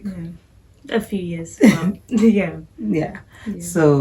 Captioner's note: mom chuckling